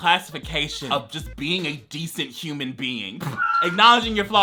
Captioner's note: laughs